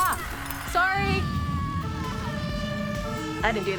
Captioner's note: glass shatters; emergency sirens; woman screams